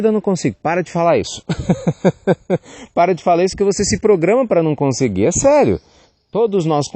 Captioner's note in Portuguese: risos